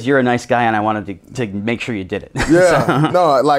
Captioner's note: laughs